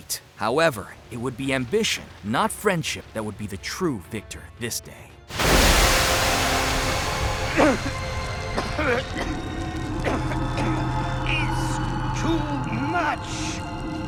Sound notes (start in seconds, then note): 6.7 coughing